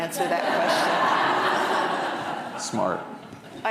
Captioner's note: audience laughing